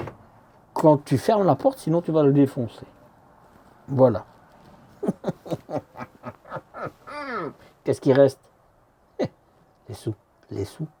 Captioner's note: laughs